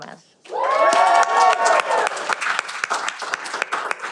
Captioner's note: cheering